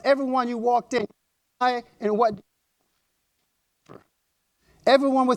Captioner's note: audio drop